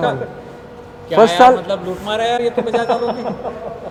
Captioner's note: laughter